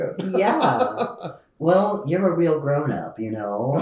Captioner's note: laughs